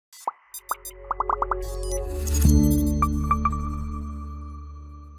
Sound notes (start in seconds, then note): 0.1 bubbles pop; 2.7 logo beeps